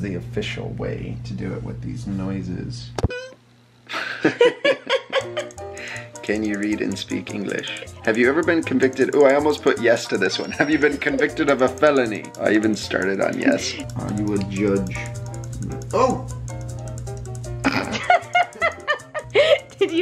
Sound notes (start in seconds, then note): 3.9 laughing; 17.6 laughing